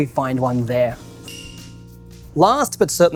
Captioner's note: bell dings